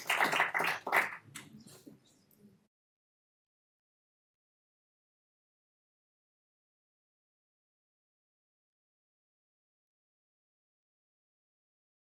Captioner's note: applause